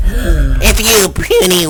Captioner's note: gasp